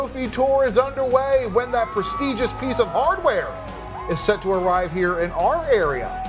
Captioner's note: crowd cheering 6 seconds